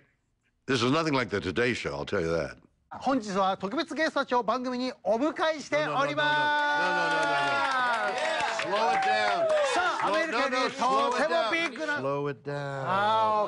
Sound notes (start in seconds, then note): 2.8 speaking Japanese; 6.3 cheers and applause